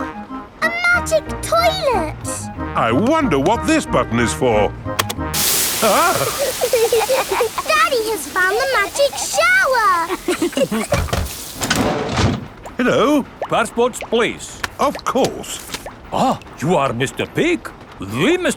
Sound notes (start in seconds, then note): 5.8 laughing